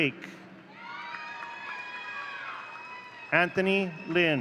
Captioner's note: audience cheering